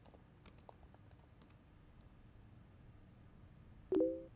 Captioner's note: keyboard typing